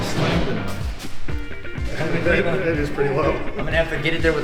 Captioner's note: laughs